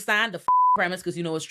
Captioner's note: beep